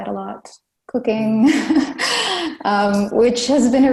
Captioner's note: laughs